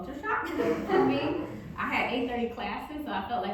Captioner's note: audience laughing